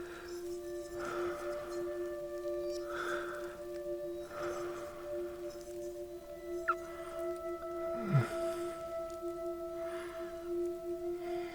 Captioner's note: Wanderer breathing, watching the light